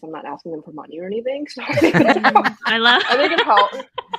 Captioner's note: everyone laughs